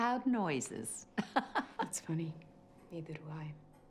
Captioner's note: laughing